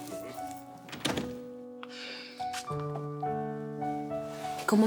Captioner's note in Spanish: Sonido al cerrar la puerta